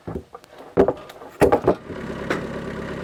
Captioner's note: slab banging; engine rumbling